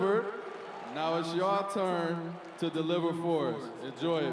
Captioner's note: cheering and Applause